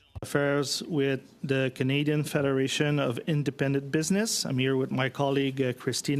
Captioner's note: speaking French